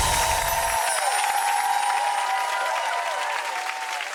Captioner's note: audience applause; bells chiming